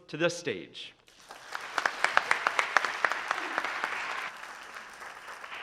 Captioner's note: audience applauding